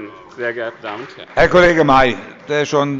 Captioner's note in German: Beifall bei dem BÜNDNIS 90/DIE GRÜNEN und der SPD